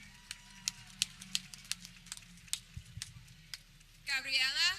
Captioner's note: people clapping